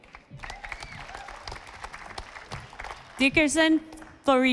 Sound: audience applauding

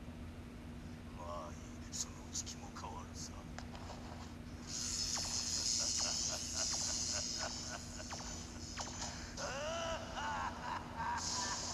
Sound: chuckles

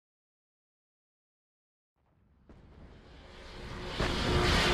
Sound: plane whirring

